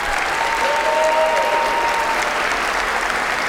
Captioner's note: applause